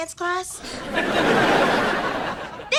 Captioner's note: audience laughter